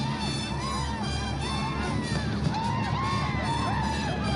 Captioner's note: yelling